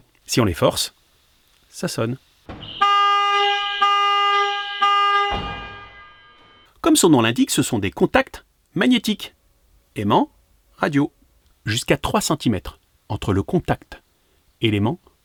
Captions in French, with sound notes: Si on les force.... Ça sonne. [Alarme] Comme son nom l'indique, ce sont des contacts magnétiques. Aimant / Radio Jusqu'à 3 cm entre le contact et l'aimant,